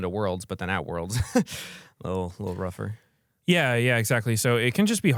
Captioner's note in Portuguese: risos